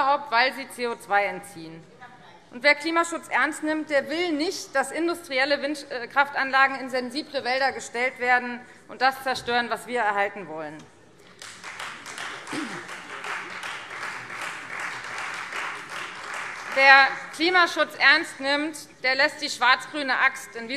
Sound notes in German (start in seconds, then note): 11.2 Beifall Freie Demokraten